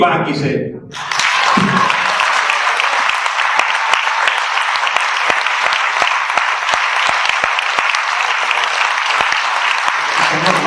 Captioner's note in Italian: Applauso